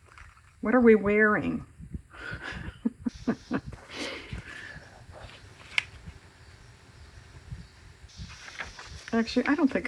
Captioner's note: laughs